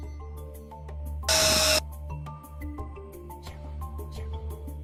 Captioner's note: drill whirring